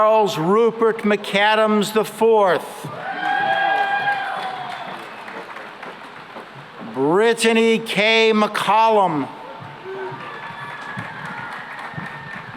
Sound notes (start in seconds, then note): 2.8 cheering and applause; 9.5 cheering and applause